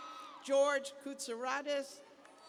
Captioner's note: cheers